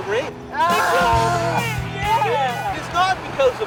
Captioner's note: shout